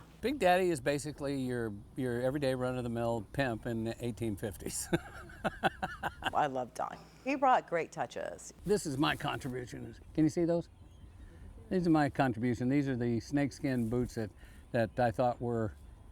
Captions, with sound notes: Big Daddy is basically your everyday, run-of-the-mill , pimp in the 1850s. [chuckles] I love Don . He brought great touches. This is my contribution . Can you see those? These are my contribution . These are the snakeskin boots that I thought were...